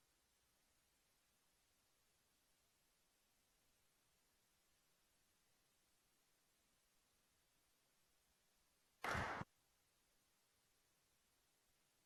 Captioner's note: applause